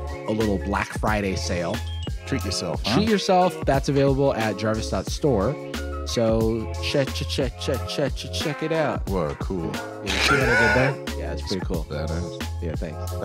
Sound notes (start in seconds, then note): 10.0 laughs